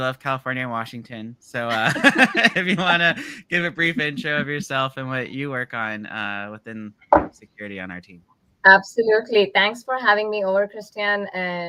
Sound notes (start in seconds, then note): 1.6 laughs